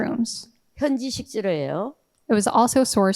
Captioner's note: speaking in foreign language